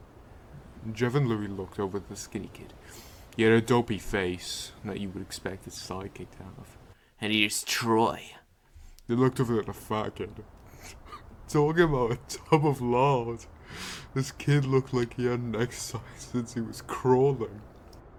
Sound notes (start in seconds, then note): 10.6 snicker